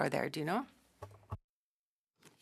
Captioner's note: speaking French